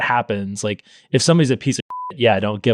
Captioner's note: beep